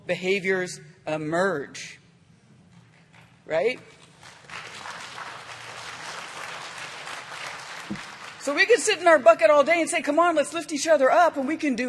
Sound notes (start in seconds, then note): 2.2 applause